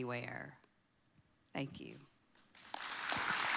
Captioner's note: audience clapping